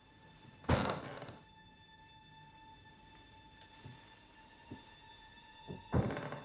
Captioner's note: pensive music; floor creaking; item thudding